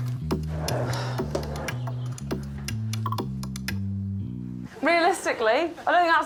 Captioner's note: tearing sound; exhales